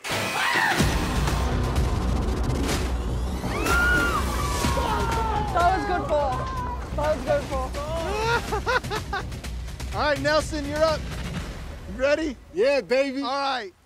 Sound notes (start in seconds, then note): 0.8 upbeat music; 3.3 crowd cheering; 7.8 laughs